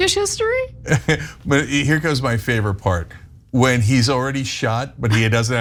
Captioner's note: laugh